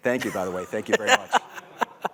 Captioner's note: laughter